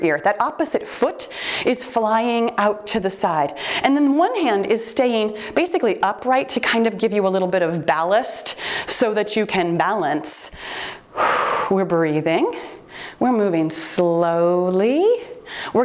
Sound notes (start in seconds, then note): 10.5 exhaling